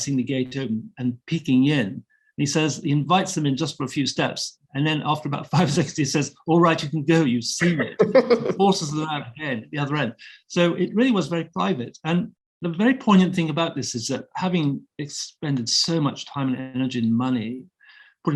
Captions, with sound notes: seeing the gate open, and peeking in. And he says he invites them in just for a few steps. And then after about five seconds he says, ‘All right, you can go, you've seen it,’ [both chuckling] forces them out ahead at the other end. So it really was very private. And the very poignant thing about this is that, having expended so much time and energy and money